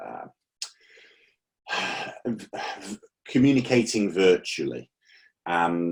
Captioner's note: sighs